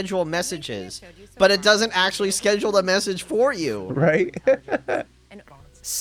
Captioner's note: laughs in Siri bad